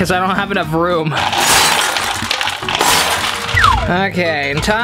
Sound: glass smashing

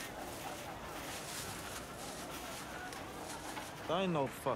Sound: bag rustles

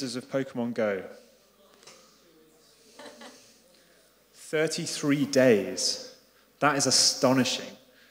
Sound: laugh

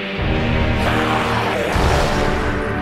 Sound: portal noises; primitive noises

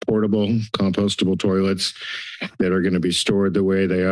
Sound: inhales

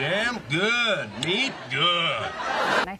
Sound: audience laughs

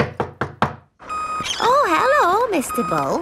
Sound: knocking at door

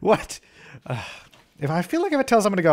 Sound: sigh

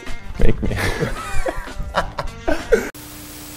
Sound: laughter

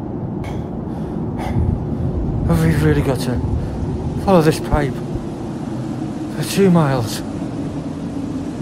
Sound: storm Continues; out of breath; storm Continues

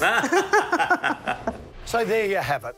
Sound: laughing

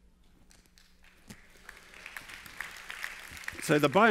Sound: applause

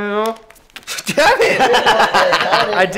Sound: laughs

